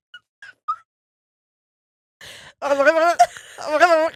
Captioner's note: laughing